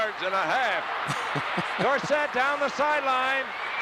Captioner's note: laughs